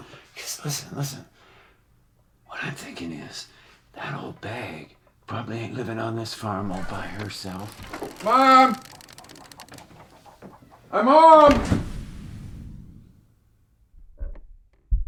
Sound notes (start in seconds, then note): 6.6 door creaking; 11.5 dramatic booming; 14.8 hearts loudly beating